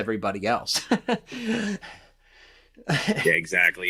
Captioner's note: chuckles